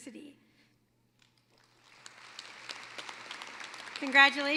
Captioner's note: applause